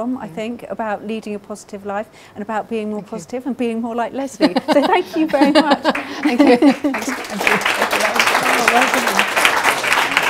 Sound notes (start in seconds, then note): 4.4 laughing; 5.8 audience applauding